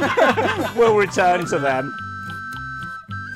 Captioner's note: everyone continues to laugh